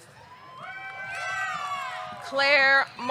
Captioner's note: audience cheering; audience clapping